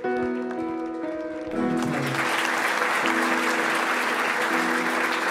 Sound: audience applauding; uplifting instrumental music

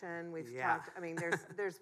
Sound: chuckles

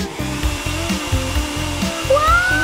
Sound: hair dryer whirring

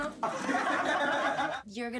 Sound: laughter

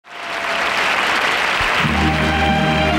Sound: audience applauding

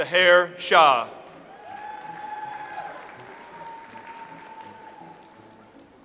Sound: audience applauds

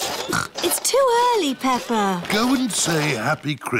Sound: snorts

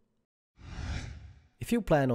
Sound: screen whooshes

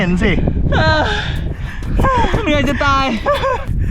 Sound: pants and sighs

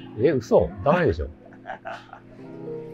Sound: laughing

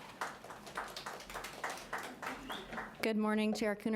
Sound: audience applauding lightly

